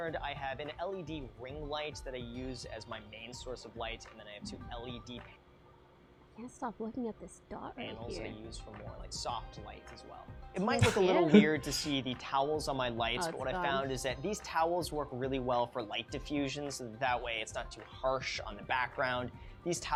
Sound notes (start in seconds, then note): 10.8 laughs